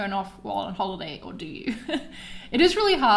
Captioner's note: laughs